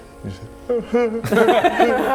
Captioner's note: cries